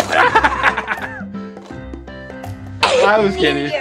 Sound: laughter

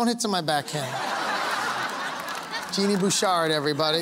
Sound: laughter

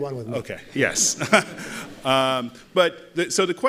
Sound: laughter

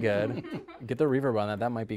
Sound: laughing

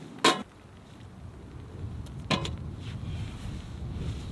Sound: lid clangs

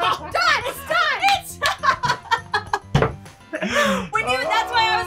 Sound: laughing

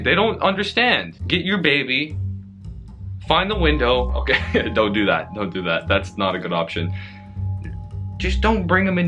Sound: laughs

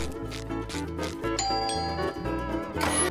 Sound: ringing

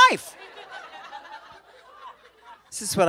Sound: laughter

